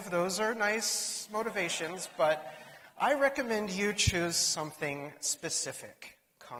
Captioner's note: laughter